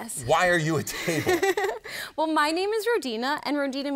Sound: laughs

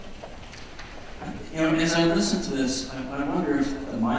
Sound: voiceover

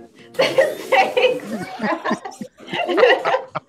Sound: laugh

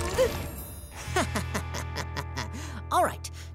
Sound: laughing

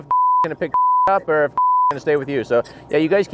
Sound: beep

